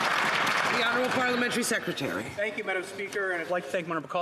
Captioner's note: some Applause